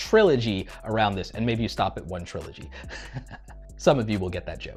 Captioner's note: laughs